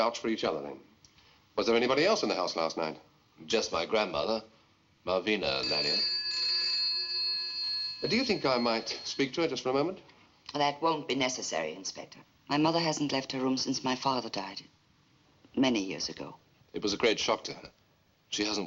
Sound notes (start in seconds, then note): 5.4 phone Rings